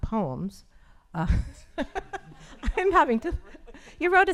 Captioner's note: laughs